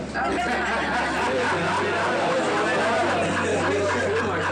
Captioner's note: group laughing